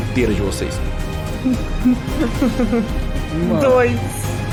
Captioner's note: laughs nervously